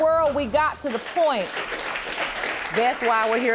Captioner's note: audience applauding